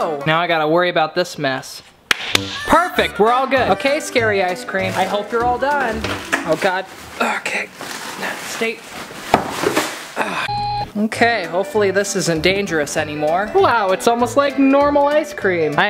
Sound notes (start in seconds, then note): 2.0 claps twice; 10.4 beep